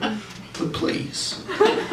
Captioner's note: laughter